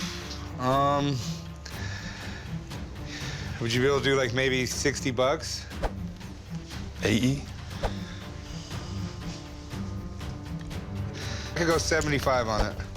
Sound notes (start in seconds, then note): none